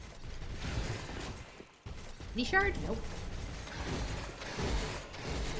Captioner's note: gunfire